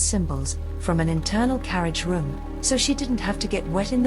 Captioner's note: sound of rainfall